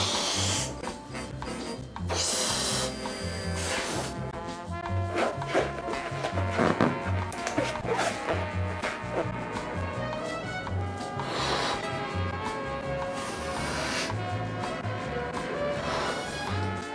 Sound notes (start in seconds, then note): 0.0 air blows; 5.0 balloon squeaks; 11.0 air blows